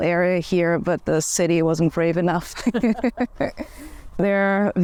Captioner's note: laughs